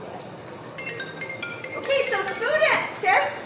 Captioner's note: phone ringing